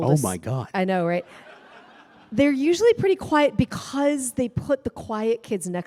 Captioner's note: laughter